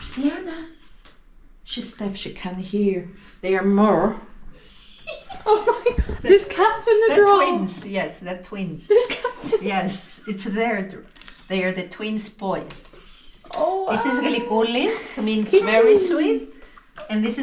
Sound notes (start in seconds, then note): 5.0 laughter